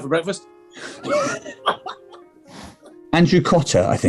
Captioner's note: giggling